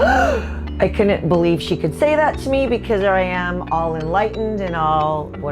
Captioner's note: gasp